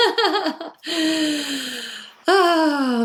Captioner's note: laughing